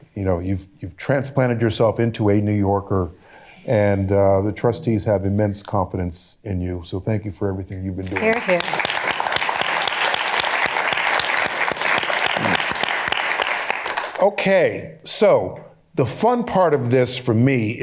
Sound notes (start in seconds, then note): 9.6 applause